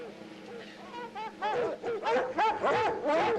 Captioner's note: barking